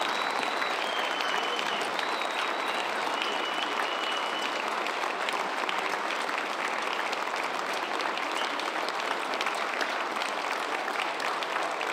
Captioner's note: cheers and applause